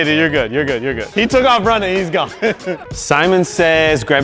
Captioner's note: laughs